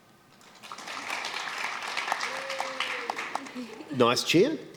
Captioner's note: applause